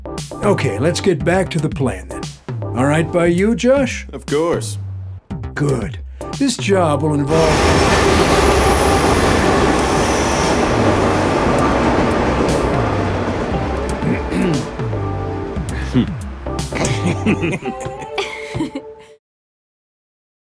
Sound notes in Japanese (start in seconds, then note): 7.2 電車の走行音; 14.0 カーマインのせきばらい